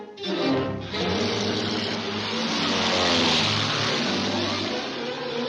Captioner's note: engine roaring